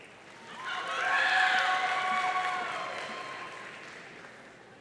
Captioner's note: audience cheering